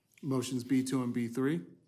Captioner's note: speaking fast